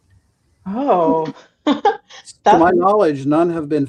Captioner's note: chuckles